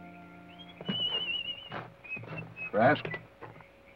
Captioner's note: whistles melodically